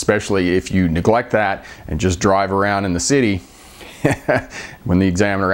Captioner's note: chuckling